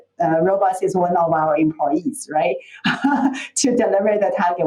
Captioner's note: laughs